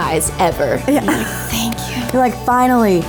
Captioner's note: laughing